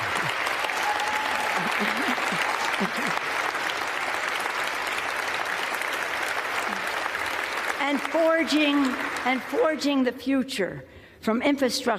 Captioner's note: applause